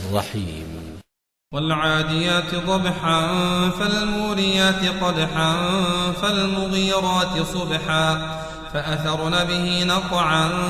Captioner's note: breath